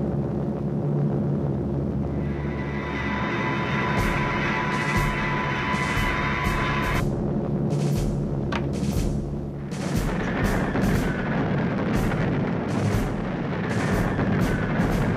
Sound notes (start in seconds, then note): 4.1 tense drumming music; 8.5 clicking; 10.3 bombs whistling